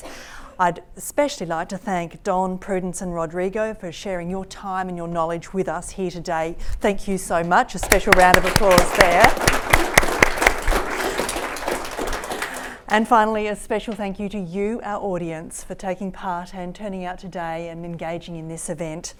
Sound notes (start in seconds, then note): 7.8 audience applauds